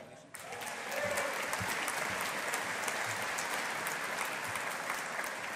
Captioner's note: audience applauding